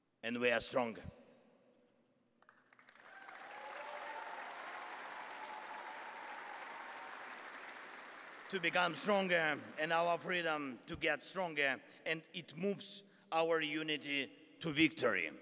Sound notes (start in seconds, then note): 2.4 applause